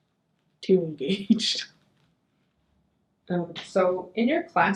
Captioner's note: chuckles